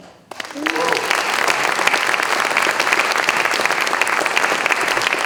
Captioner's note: applause